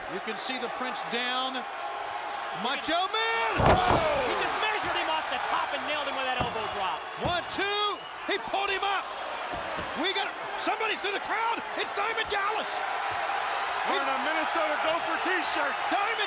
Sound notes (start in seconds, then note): 3.4 body thudding; 12.9 audience cheering